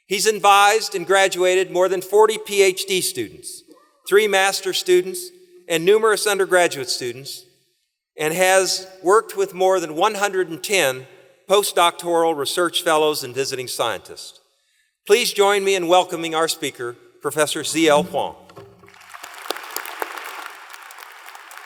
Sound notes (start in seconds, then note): 18.8 applause